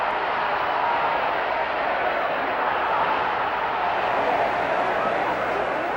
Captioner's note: audience applauds and cheers